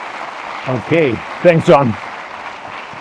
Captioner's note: audience applause